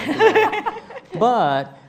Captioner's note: laughing